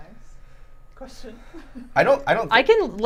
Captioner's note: laughs